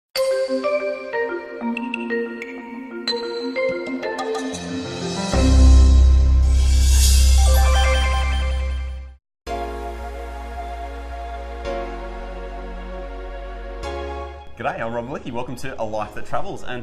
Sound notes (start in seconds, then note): 0.2 lively music; 7.3 bells ringing; 9.6 upbeat music